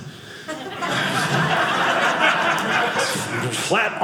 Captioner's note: audience laughing